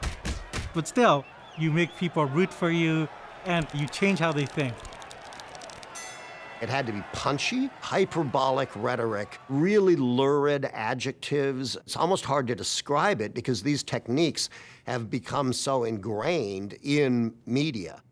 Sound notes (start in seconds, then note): 4.6 crowd clamoring, bell rings